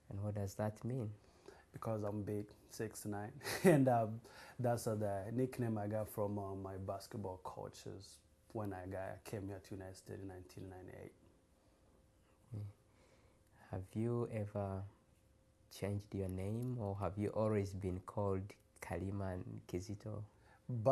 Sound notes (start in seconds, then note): 3.2 laughs